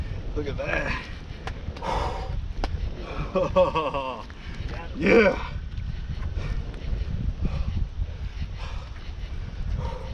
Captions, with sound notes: Look at that! (Laughing) Yeah!